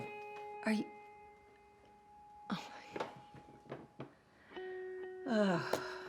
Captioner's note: sighs